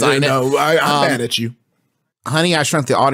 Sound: laughs

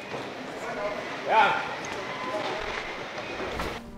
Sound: officer speaking through a megaphone

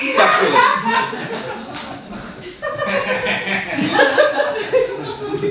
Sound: audience laughing

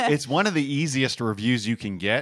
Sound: laugh

